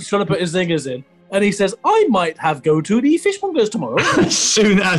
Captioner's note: silly voice; laughing